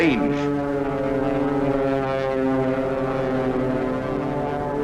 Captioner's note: planes flying overhead